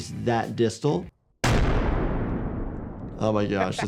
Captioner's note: explosion banging